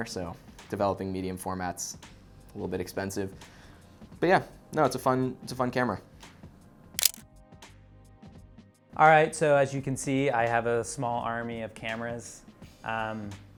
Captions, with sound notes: so developing medium format's a little bit expensive, but yeah, it's a fun camera. (camera shutter clicks) - All right, so as you can see I have a small army of cameras.